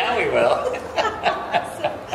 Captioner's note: laughing